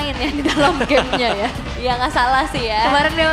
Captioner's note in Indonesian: tertawa